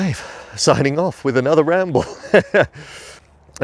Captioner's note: chuckling